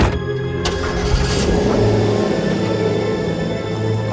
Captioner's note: engine rumbling